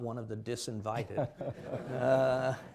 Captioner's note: laughter